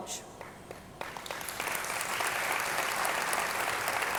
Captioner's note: audience clapping